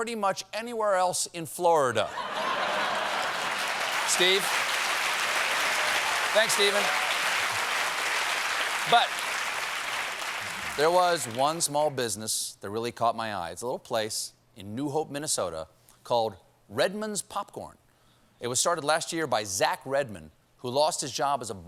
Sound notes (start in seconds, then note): 4.2 applause; 4.2 laughter